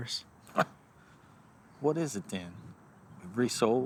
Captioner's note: laughing